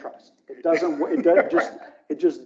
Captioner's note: laughs